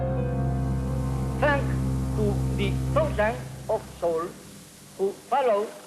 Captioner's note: speaking heavily-accented English